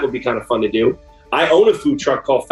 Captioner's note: none